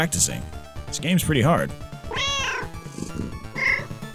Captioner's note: meow